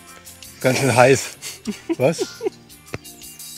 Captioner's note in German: Lachen